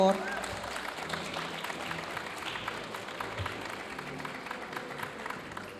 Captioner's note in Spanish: aplausos y vítores de la audiencia